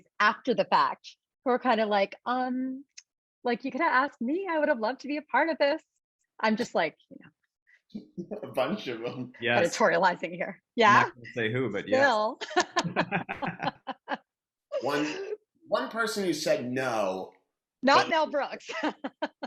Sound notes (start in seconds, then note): 12.4 all laughing